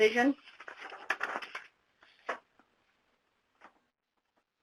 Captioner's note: paper rustling